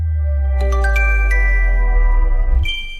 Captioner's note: chime